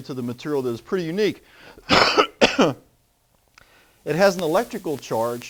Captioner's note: coughs